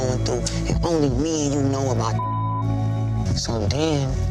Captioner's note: beep